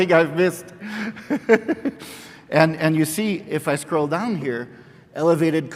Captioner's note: laughs